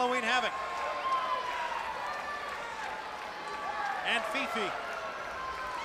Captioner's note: crowd chatter